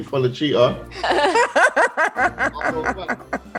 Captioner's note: laugh